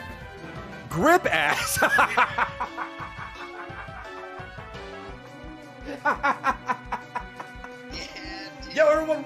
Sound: laughs

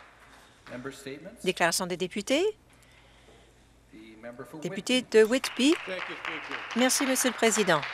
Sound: applause

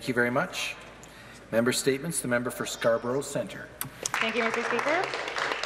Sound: some Applause

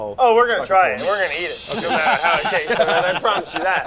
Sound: laughter

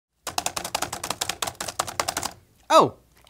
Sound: typing

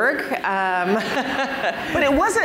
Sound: laughter

